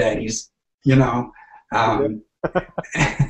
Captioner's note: laughing